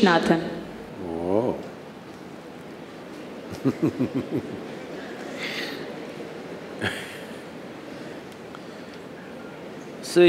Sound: laughs/Few Laughs

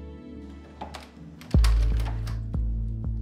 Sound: door opens

